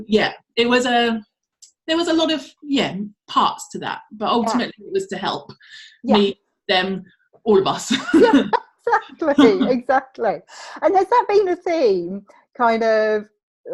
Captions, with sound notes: So yeah, there was a lot of, yeah, paths to that but ultimately it was to help me, them, all of us (chuckles). - Exactly, exactly and has that been a theme, kind of